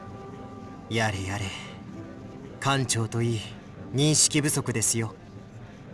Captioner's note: sigh